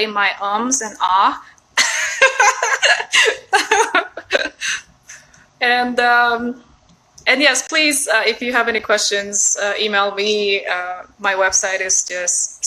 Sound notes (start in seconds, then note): 1.8 laughs